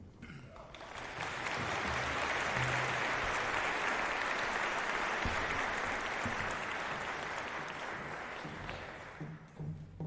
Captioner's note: applause